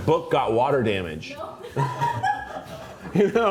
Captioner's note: crew member laughs